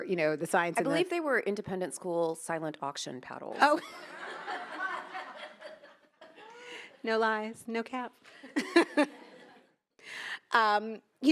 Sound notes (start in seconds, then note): 3.6 attendees laughing; 4.2 laughs; 8.5 attendees laugh; 8.7 laughs